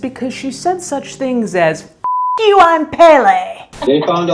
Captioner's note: beep